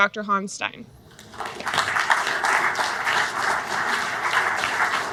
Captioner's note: audience clapping